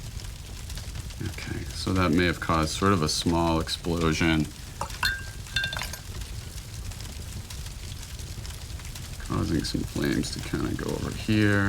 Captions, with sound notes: Okay. So, that may have caused sort of a small explosion... [Brush clinks] ...cause some flames to kind of go over here.